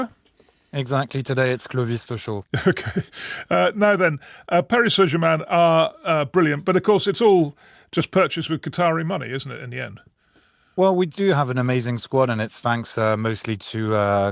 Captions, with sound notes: Exactly. Today it's Clovis for sure. [chuckles] Okay. Uh, now then, uh, Paris Saint-Germain are, uh, brilliant, but of course, it's all just purchased with Qatari money, the end? Well, we do have an amazing squad, and it's thanks, uh, mostly to, uh,